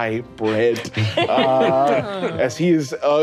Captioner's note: laughing